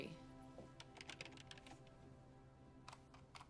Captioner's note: keyboard clacking